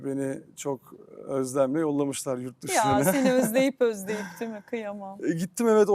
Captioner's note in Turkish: kahkaha